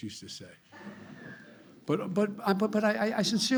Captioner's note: laughter